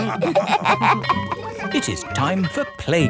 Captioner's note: all laughing; school bell ringing